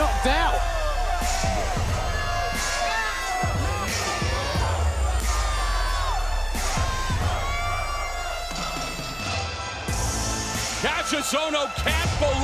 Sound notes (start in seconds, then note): 2.8 crowd chatter